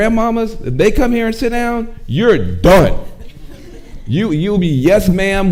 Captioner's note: audience chuckling